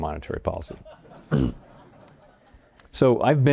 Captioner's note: audience laughs